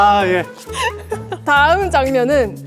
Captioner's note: haha